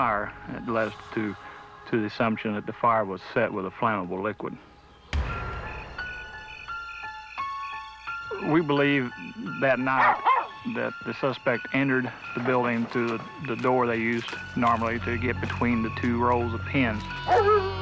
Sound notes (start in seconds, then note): 6.8 insects chirping